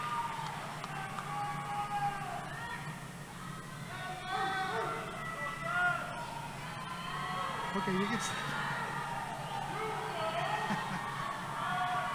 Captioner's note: cheering